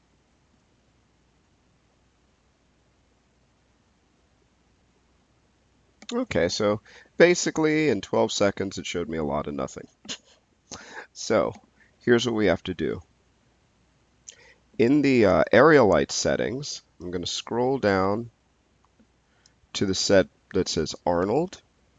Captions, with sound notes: OK, so basically, in 12 seconds, it showed me a lot of nothing. (laughs) So here's what we have to do. In the Aerial Lights settings, I'm gonna scroll down to the set that says Arnold.